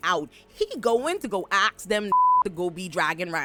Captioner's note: beep